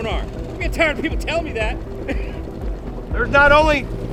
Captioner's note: laughing